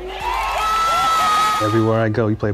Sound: crowd cheering wildly

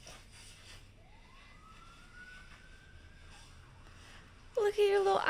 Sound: sirens wailing

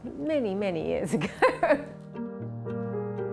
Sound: laughs

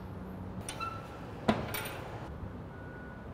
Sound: clanging

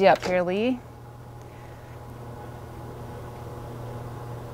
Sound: bed motor hums

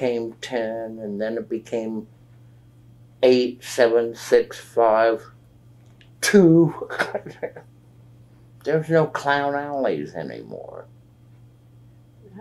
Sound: laughs

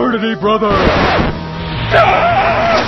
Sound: record scratch; Fraternity Brother screams

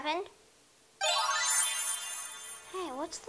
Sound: magical chime

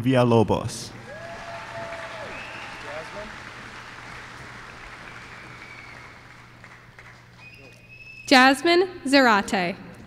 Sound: applause

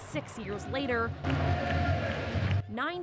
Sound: cheering

